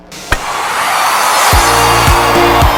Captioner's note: static sound; screaming noise